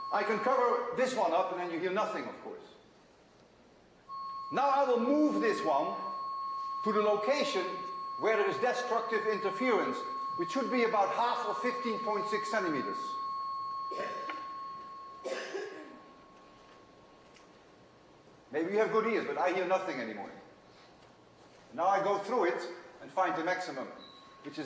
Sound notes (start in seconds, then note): 15.6 tone fades away